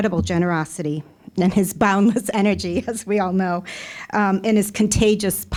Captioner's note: chuckling